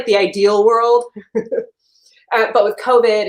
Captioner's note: chuckles